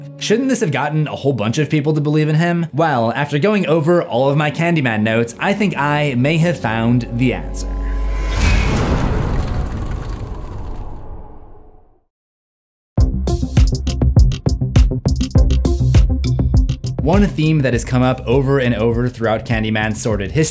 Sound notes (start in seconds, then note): 7.7 impact